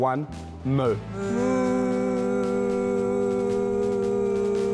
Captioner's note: all mooing